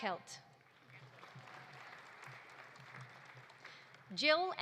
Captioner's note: audience applauding